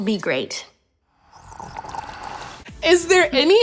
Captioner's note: slurps